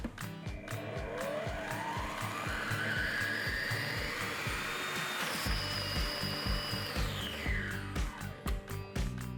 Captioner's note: food processor whirring